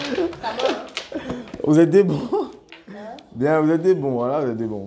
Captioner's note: laughs